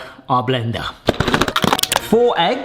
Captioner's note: blender clattering